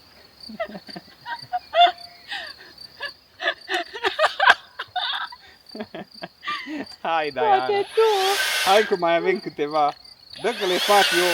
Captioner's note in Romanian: Râsete